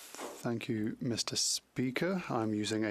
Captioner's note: speaking French